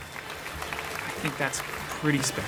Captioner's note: applause